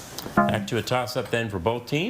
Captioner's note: text buzzing